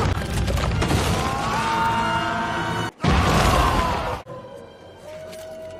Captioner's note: collective screaming